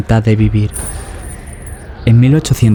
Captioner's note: wind and chains